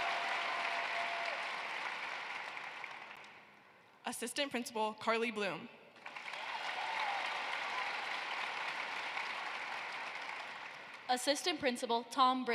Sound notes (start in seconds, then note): 3.2 cheering and applause; 11.4 applause